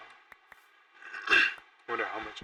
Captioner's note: clears throat